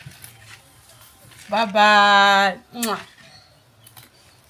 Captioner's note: kisses